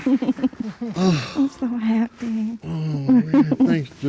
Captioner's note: sighs